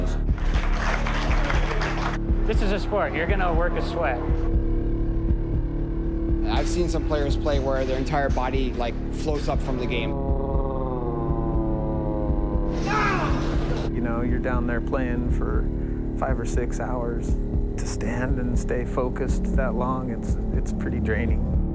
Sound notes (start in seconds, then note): 0.0 applause; 10.1 slow-motion scream